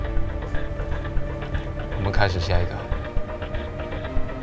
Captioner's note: in Mandarin